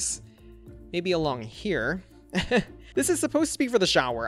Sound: chuckles

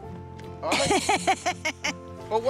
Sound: woman laughs

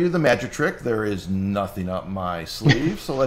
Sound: laughs

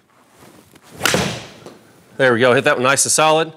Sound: golf ball thwacks

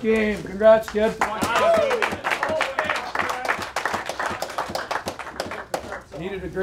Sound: applause

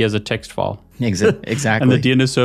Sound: chuckles

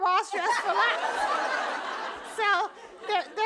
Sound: audience laughing

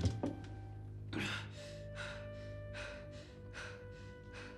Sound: panting

